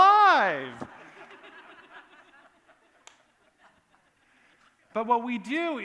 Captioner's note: laughter